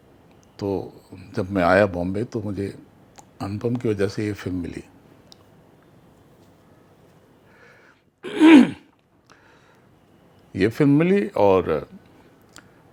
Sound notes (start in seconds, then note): 8.2 clears throat